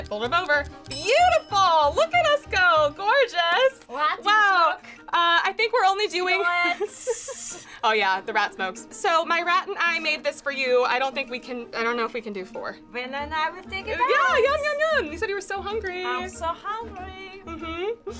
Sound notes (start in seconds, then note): 0.9 bell dings